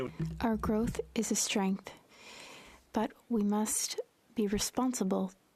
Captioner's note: speaking French